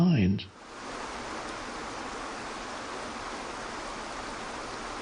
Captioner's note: waterfall rushes